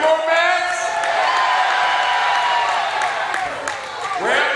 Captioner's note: audience cheers